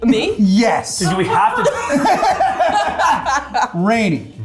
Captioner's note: cast laughing